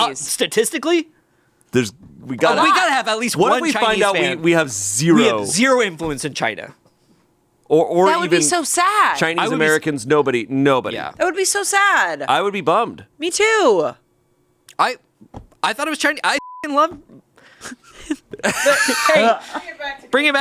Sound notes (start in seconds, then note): 16.4 beep; 17.6 laughs